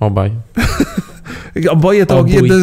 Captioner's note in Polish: śmiech